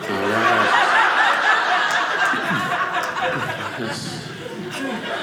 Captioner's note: audience laughing